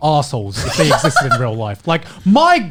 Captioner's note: laughs